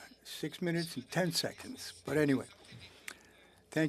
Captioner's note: speaking French